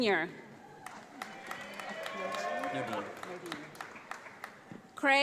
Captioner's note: audience applauds